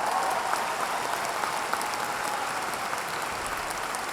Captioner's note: audience applauding